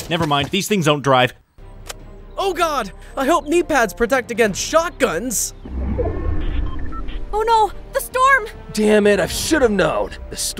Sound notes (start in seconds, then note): 2.2 gun cocks; 5.6 storm whirring